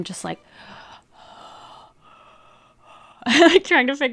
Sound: heavy breathing

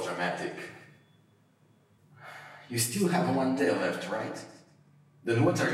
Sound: awkward Pause

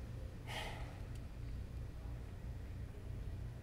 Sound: sighing

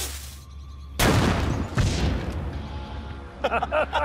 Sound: cannon banging; men laughing

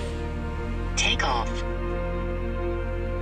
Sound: drone

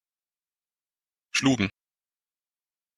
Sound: fast Pronunciation

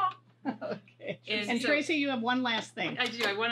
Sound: laughs

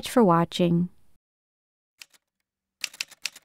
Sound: typewriter sounds

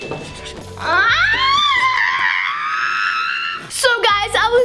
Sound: screaming

